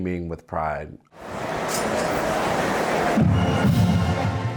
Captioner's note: crowd indistinct cheering; lively band music